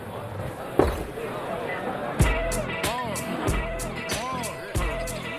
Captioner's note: glass set down